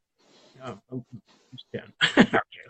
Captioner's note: laughs